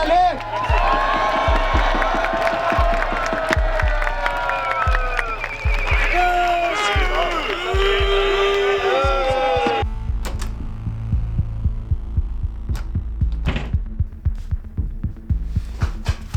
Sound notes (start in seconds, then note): 10.2 someone jerks the door handle; 12.7 someone jerks the door handle